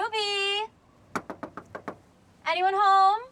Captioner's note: knocks